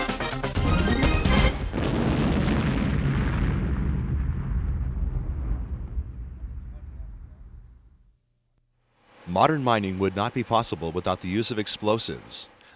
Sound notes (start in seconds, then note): 0.6 explosion